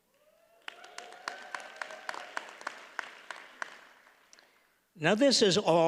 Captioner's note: audience cheers and applauds